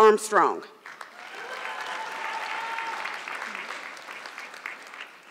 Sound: audience clapping

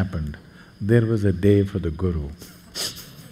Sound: laughs

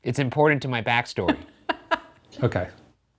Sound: laughing

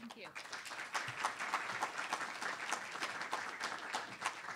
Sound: audience applauds

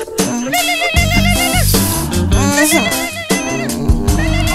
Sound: phone ringing

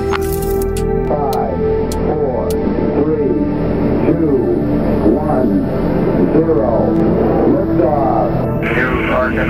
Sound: radio voice 2

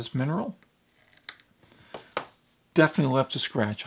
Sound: glass scraping

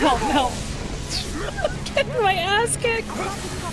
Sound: laughter

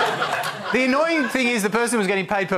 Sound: applause

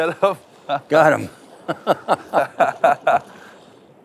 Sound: laughs

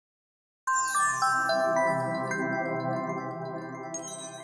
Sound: chimes

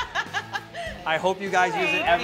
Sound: laughter

